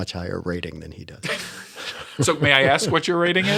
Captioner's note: laughter